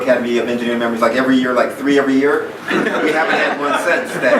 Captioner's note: laughing